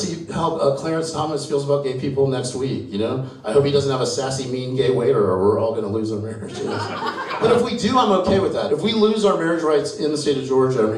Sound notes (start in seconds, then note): 6.5 audience laughs